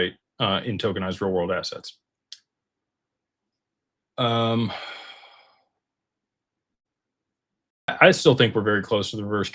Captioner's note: sighs